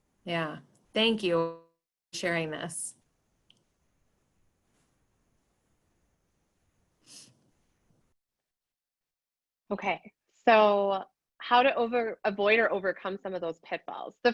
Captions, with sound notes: Yeah. Thank you for sharing this. [Silence] - Okay. So how to over – avoid or overcome some of those pitfalls.